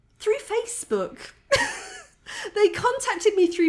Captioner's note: laughing